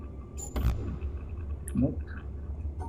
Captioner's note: none